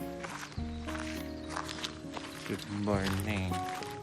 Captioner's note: crunching